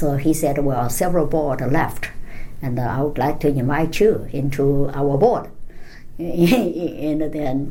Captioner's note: laughs